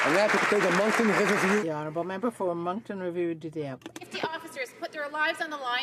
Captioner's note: some Applause